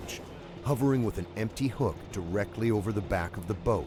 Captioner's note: voiceover